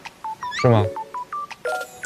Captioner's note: confident